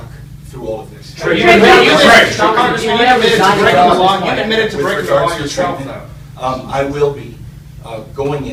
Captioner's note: reporters shouting